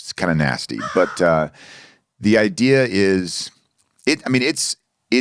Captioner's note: crow cawing